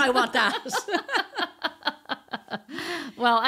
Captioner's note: laughing